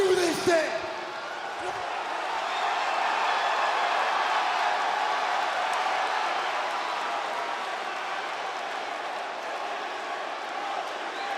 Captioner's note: crowd cheering